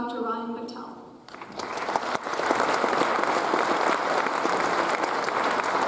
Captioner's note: audience applauds